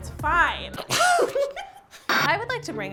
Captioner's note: laughter